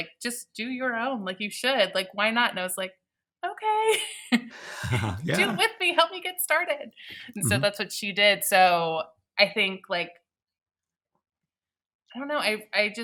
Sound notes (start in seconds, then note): 4.5 people chuckling